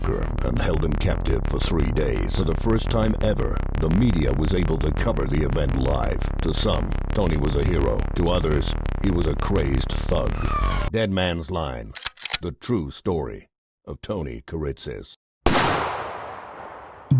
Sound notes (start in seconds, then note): 11.9 gun cocks; 15.4 gunshot